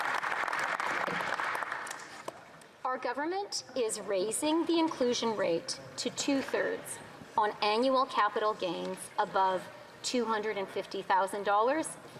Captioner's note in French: applaudissements